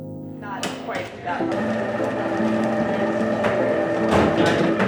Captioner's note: machine sounds and people chatteer